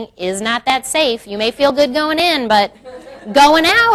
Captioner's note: crowd laughs